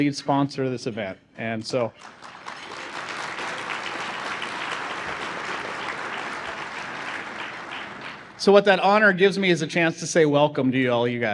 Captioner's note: applause